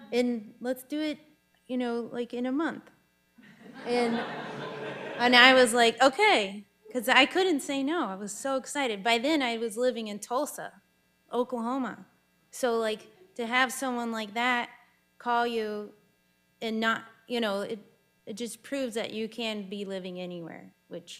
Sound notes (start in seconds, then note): 3.4 audience laughing